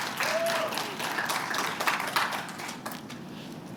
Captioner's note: applause